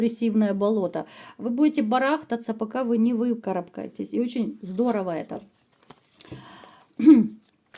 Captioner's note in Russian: откашливается